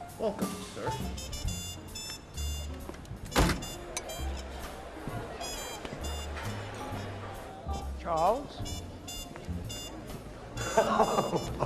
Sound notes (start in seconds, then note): 4.2 all chattering; 10.6 laughing delightedly